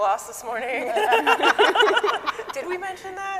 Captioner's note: scientists laughing